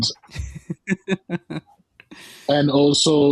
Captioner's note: soft laughter